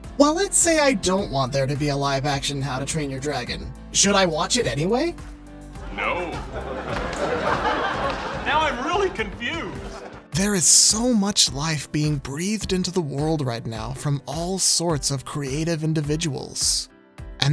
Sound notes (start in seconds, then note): 5.8 laughter